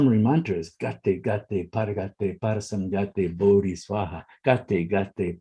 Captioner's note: speaking in foreign language